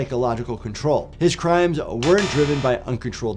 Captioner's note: buzzer blares